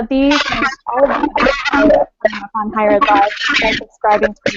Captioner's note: interference noise